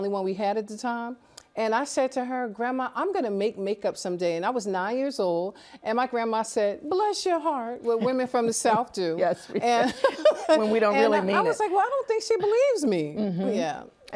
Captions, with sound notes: ...which was the only one we had at the time. And I said to her, "Grandma, I'm gonna make makeup someday," and I was 9 years old. And my grandma said, "Bless your heart," what women from the South do. -[laughs] Yes, we do. -[laughs] -When we don't really mean it. -I was like, well, I don't think she believes me. -Mm-hmm.